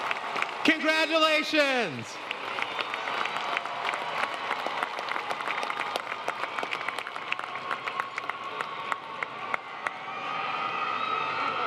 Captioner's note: applause